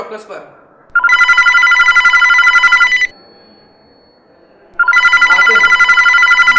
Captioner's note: phone rings